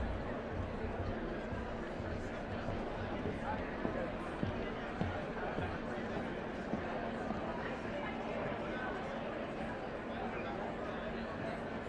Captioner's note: indistinct chatter